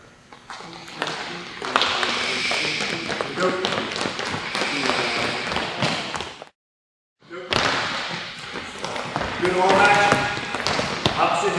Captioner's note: shoes squeaking